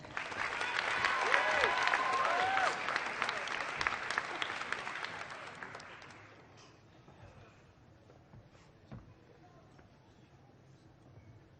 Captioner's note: applause